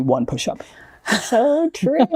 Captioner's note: chuckles